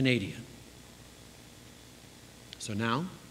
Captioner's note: pause